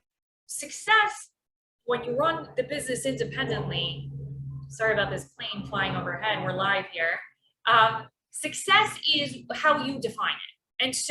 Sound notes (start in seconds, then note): 3.6 plane roaring